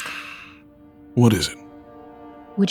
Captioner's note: sighing